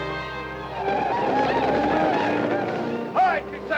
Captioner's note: Apaches howl